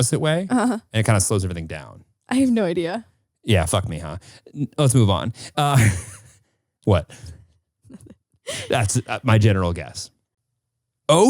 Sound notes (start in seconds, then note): 4.7 laughing; 8.5 laughing